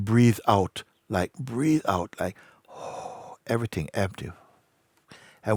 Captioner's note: strong exhale